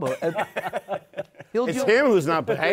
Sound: laughter

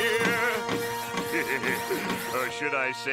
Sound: laughing

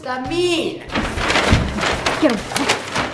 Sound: paper bags rustling

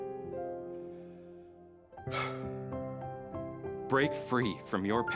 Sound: sighs

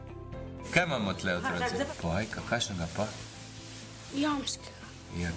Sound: speaking Slovenian

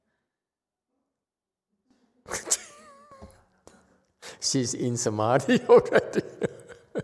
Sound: laughs

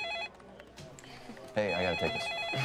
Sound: telephone rings

